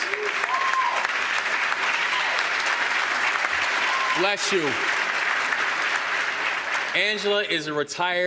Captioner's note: applause